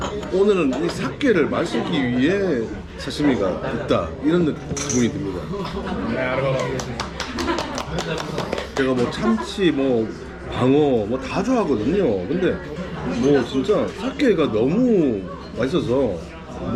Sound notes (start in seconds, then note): 6.5 applause